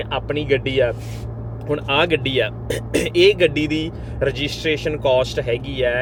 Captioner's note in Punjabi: ਗਲਾ ਸਾਫ਼ ਕਰਨ ਦੀ ਅਵਾਜ਼